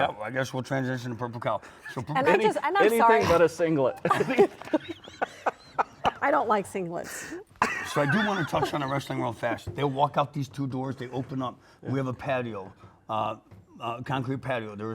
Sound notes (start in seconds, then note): 3.9 all laugh